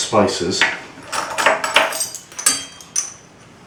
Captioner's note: rattling spoons